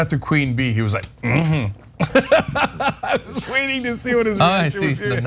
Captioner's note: laugh